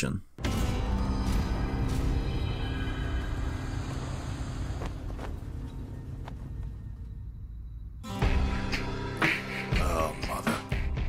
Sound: in-game audio

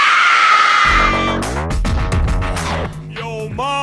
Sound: screaming

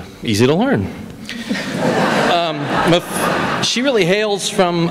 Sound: laughter

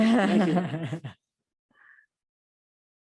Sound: laughing

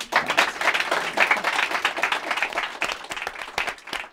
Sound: applause

